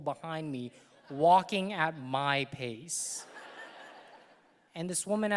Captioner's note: audience laughing